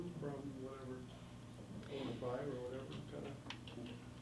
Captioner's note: faintly speaking